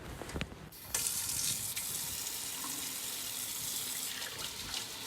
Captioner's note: water running